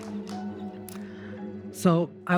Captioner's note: audience applauds